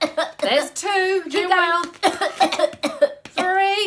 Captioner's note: cough, cough